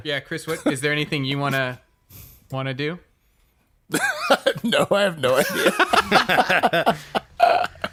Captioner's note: laughs